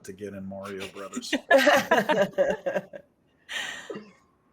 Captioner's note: laughing